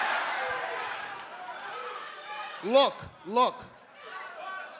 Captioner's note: crowd chatter